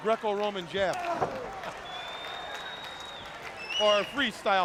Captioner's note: crowd cheering